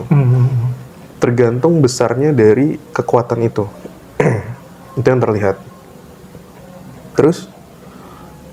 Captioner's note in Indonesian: berdehem